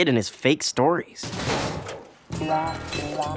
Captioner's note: garbage can clatters; rummages through garbage